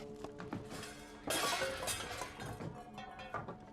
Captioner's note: clattering